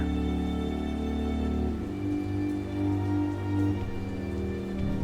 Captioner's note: rain